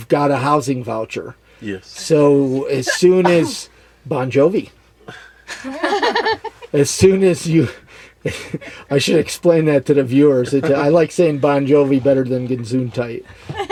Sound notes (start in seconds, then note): 2.8 sneezes; 5.4 laughs; 8.2 laughs